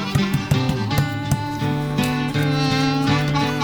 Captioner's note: fists banging